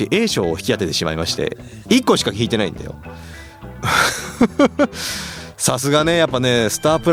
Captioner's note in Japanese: 笑い